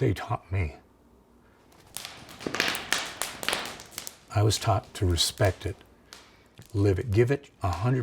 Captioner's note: crackling fire